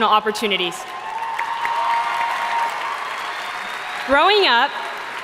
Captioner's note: audience cheering and applauding